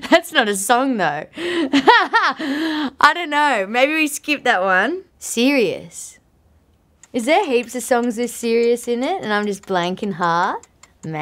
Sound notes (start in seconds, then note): 1.6 laughing